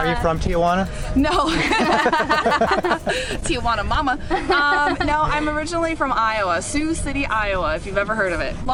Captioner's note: laughter